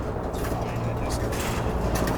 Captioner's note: chopper whirling